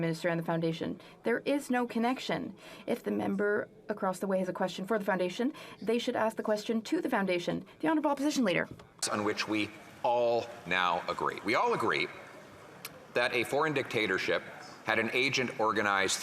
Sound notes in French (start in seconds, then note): 9.2 voix de l'interprète